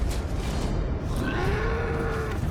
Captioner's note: roars